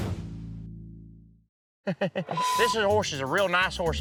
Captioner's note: laughs